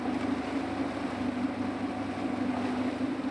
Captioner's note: engine hums